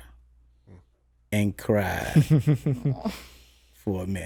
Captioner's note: laughs